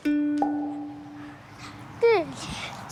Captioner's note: pop!